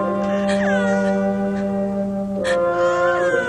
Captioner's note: cooing continues